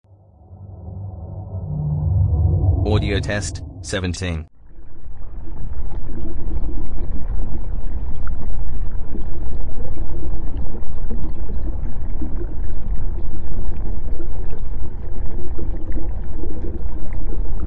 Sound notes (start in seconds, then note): 0.0 eerie ethereal transitional SFX; 4.6 underwater ocean sounds with lower toned bubbles and occasional drip sounds